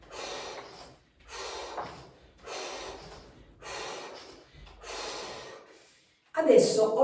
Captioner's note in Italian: sbuffare